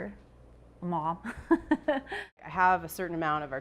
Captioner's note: laughs